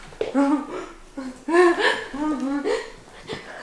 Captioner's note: laughs